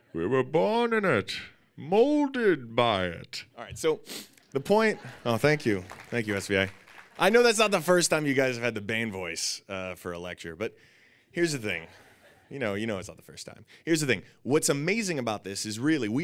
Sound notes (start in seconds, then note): 4.4 laughing and clapping